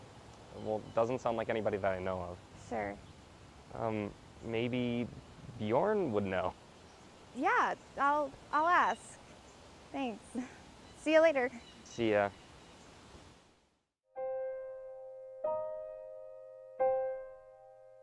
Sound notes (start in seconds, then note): none